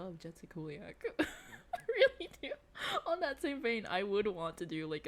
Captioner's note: laughing